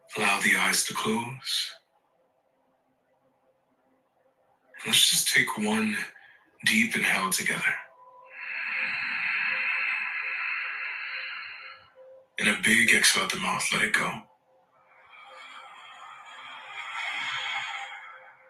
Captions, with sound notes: Allow the eyes to close. And let's just take one deep inhale together. (inhales deeply) And a big exhale out the mouth, let it go. (exhales deeply)